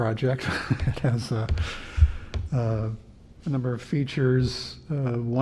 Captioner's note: laughter